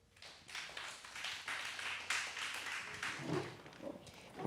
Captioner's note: audience applauding